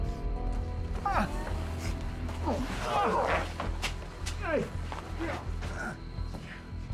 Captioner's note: scottish accent; geraldo continues groaning